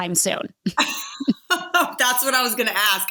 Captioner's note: joint laughter